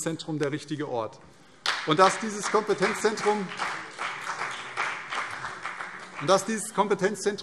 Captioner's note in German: Beifall CDU und BÜNDNIS 90/DIE GRÜNEN